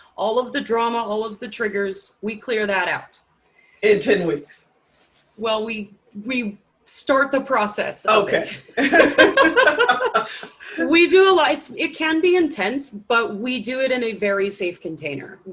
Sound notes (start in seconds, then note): 8.7 laughs